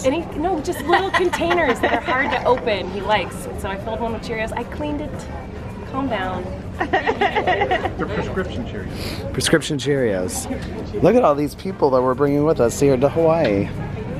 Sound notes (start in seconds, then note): 6.8 laughter